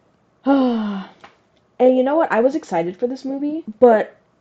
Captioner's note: sigh